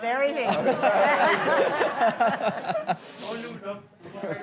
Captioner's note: all laughing